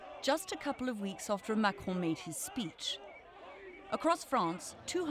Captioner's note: crowd chanting